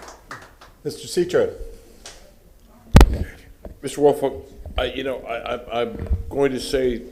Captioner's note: applause